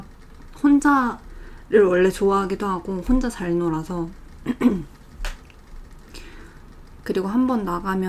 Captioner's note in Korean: 목을 가다듬음